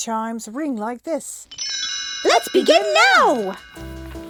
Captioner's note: chimes